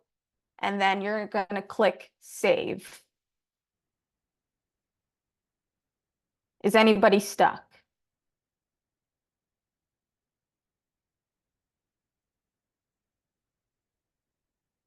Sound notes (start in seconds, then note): 5.3 silence